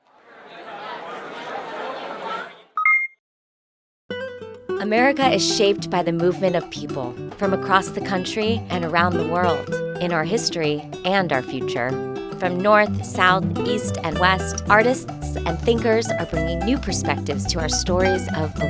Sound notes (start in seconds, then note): 0.1 crowd chattering; 2.8 logo chiming